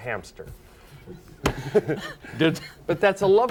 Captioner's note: both laughing